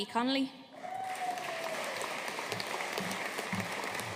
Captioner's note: audience applauding